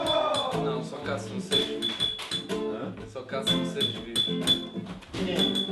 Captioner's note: people is having a conversation and playing music